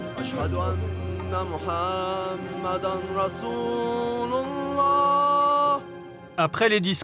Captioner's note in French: Arabic spoken language